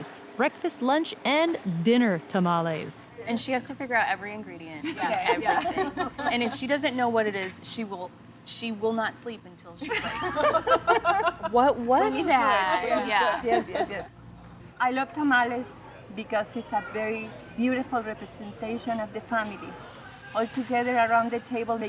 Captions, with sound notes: breakfast, lunch, and dinner tamales. -And she has to figure out every ingredient. -Yeah. -[ Laughs ] -And if she doesn't know what it is, she will not sleep until she... [ Laughter ] -What was that? -Yeah. -I love tamales because these are very beautiful representation of the family all together around the table,